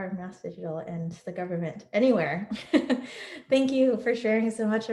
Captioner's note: laughs